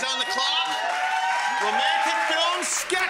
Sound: audience cheers

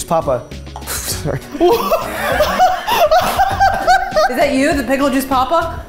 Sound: all laughing

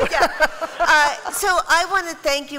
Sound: laughter

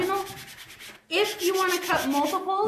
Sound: brushing

